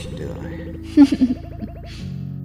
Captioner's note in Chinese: 偷笑